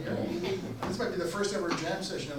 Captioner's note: audience laughs